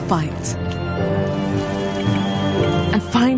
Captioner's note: kettle whistles